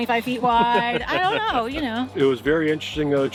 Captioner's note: chuckles